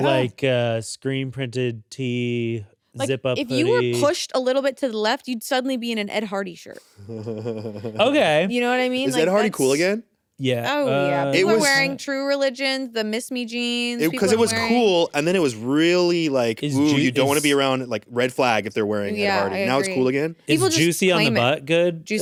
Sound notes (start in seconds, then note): 7.0 chuckles